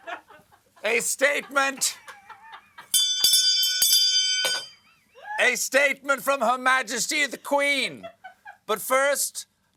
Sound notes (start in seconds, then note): 0.0 laughter; 2.9 bell ringing